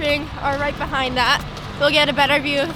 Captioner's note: engine running